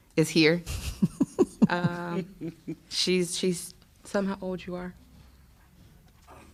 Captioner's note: laughter